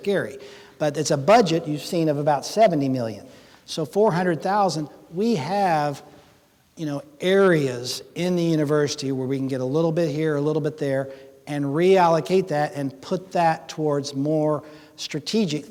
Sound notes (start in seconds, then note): none